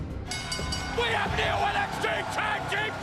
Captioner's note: bell ringing